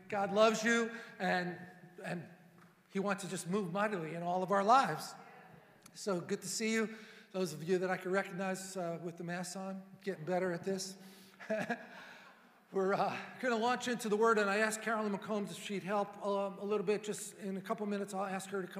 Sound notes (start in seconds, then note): 11.4 laughing